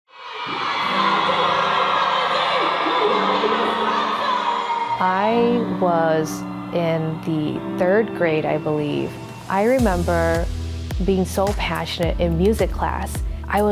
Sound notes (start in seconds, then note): 2.2 audience Cheers